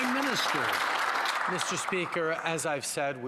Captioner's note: some Applause